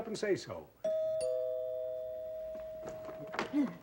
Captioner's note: doorbell